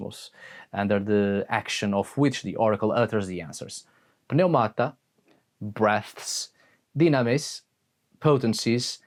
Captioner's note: breaths